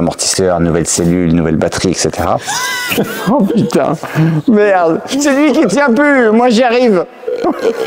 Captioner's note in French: rires